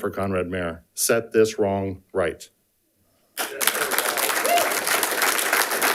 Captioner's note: audience applauding